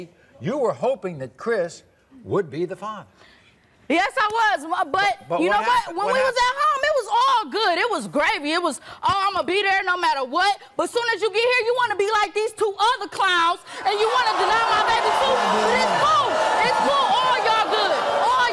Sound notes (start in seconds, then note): 13.8 crowd jeers